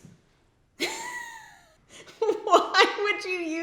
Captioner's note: laughs